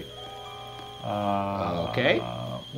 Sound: phone beeping

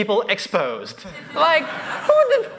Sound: laughter

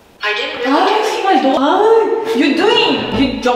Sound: annoyed

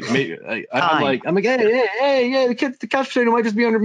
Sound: chattering

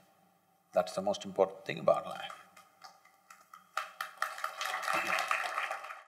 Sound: applause

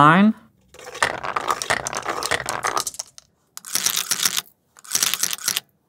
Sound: marbles rolling

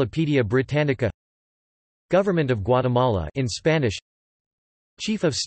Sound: in Spanish

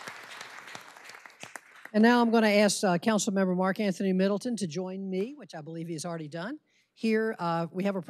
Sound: applause

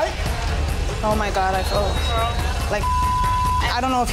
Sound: beeping

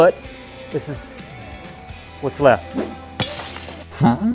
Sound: wood crashes

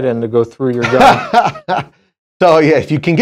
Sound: laughs

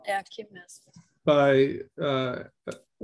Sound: speaking in Russian

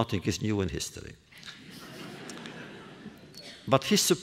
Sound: laughter

